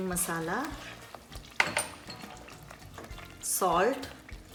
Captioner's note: dishes clinking